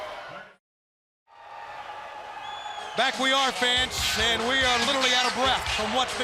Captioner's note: crowd cheering